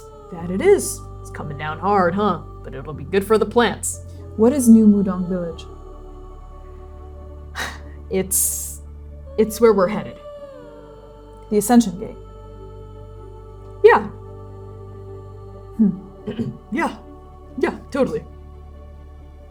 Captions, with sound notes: That it is. It's coming down hard, huh. But it'll be good for the plants. What is New Mudan Village? [exhaling] It's... it's where we're headed. The Ascension Gate. Yeah. Hm. Hm. - [clearing throat] Yeah. Yeah, totally.